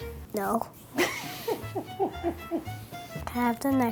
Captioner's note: laughs